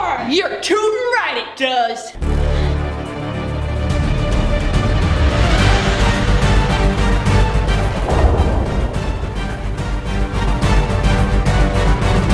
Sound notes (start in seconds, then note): 3.6 exciting music; 7.2 whoosh